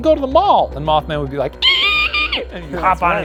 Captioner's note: screeches